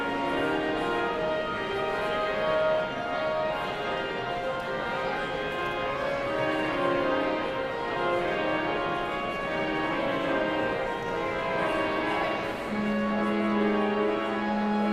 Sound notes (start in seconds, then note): 1.7 somber organ music continues; 5.9 audience chattering continues